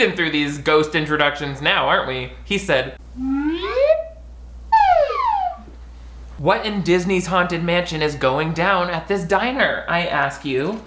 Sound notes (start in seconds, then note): 4.7 whistle toots